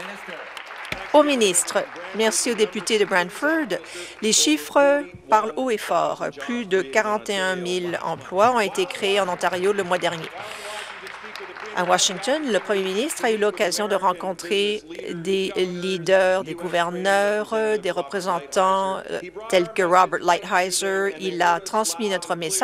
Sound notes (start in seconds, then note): 1.8 applause; 13.0 applause